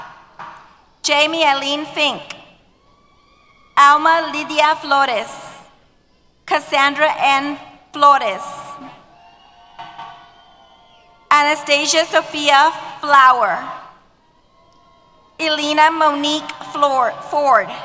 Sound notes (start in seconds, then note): 8.9 cheers